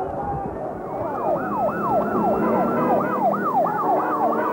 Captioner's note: siren sounds